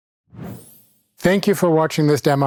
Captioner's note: graphics whooshing